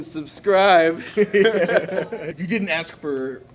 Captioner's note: laughs